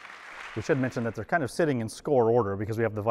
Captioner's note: applause